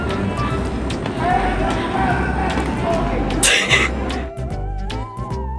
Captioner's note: loudly shouting